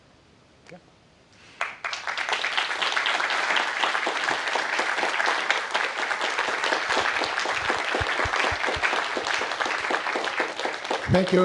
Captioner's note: applause